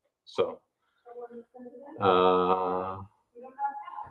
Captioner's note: chuckles